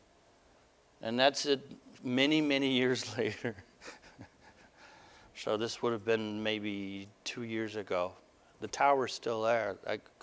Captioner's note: laughter